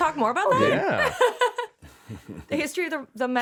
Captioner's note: laughing